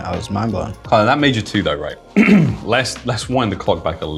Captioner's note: clears throat